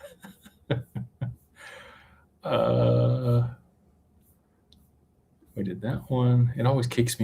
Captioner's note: laughter